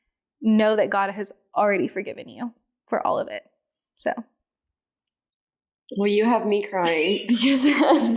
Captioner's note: laughing